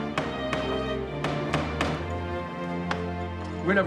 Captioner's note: <i> pounding at door</i>; <i> knocking at door</i>